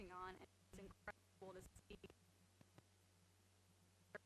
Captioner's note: stuttering audio